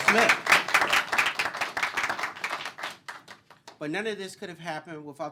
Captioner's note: applause